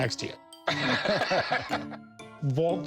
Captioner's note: laughter